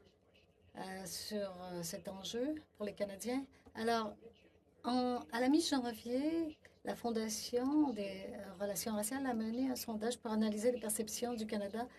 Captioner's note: speaking French